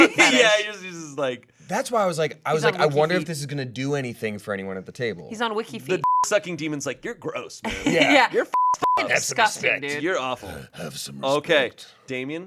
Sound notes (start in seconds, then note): 8.5 beep